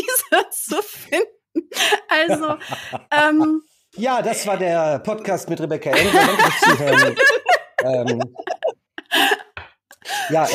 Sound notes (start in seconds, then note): 5.9 laugh